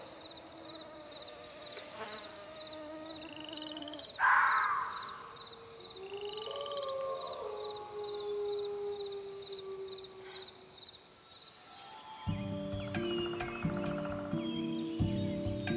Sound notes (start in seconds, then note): 5.6 wolves howling; 12.2 gentle instrumental music